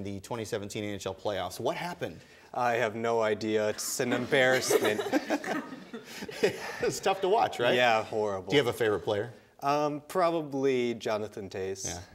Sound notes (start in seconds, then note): 4.0 laughing